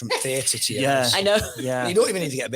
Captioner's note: laughs